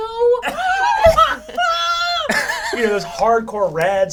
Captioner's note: all laugh